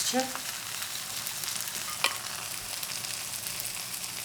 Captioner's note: pan sizzling